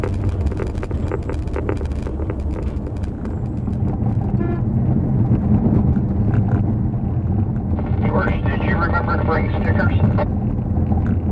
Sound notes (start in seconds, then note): 4.3 horn honk